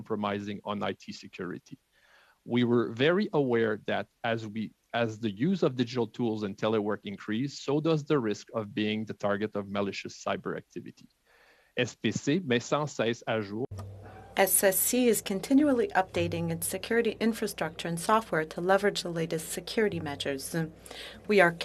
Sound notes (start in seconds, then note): 16.6 speaking French